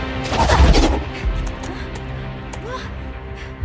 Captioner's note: breathes heavy